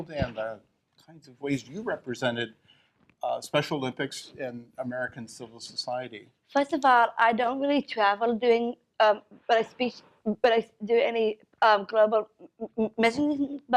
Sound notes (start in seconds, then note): none